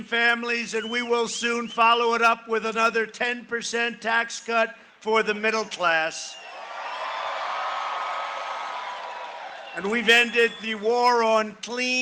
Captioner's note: cheering and applause